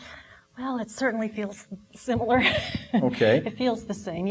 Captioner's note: laughing